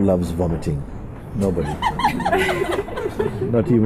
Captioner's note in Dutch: gelach